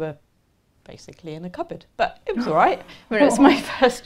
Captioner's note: laughter